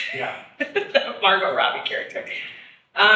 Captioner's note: chuckles; laughs